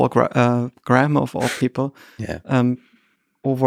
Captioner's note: Lex chuckles